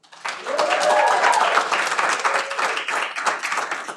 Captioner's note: cheering